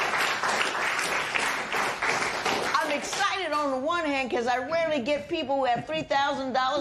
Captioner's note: applause